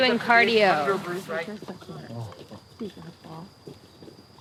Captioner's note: murmuring